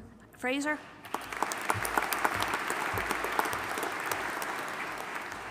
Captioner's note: audience applauding